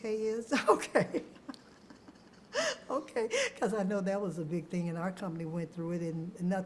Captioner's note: laughs